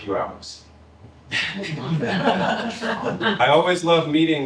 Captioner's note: laughter